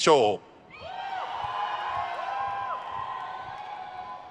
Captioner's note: crowd cheers